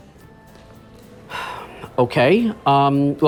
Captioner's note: sighs